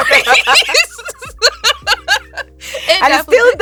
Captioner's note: both laughing